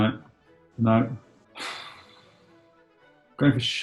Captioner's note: exhales